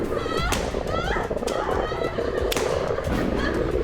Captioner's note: gun shots